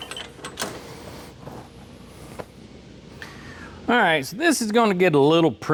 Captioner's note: metal Clanking